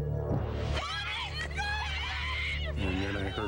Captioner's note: screaming